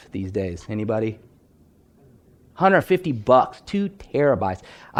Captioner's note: audience member speaking